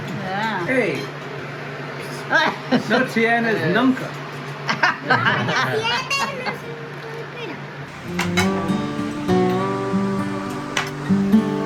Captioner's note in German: Geschwätz auf Spanisch